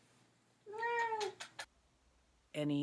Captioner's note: meow